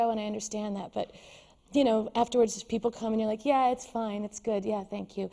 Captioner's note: with little enthusiasm